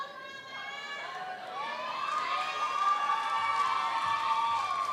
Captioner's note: audience member shouting; audience applauds; audience cheers